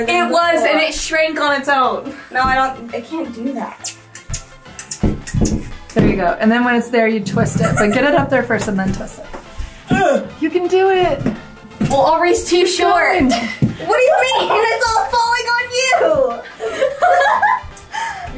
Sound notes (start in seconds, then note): 5.0 curtain rod squeaking and banging against wall; 17.3 laughing